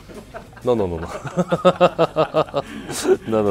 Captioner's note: all laughing; laughing